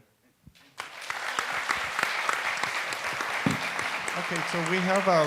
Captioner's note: audience applauds